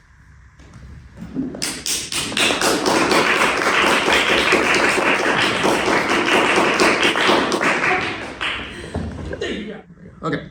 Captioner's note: applause